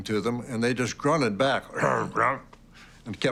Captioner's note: grunt sound